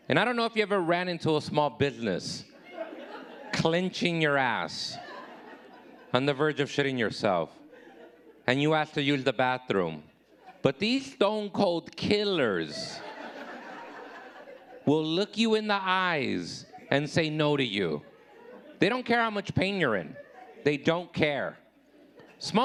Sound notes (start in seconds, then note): 12.4 audience laughing